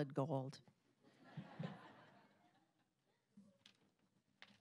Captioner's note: audience laughing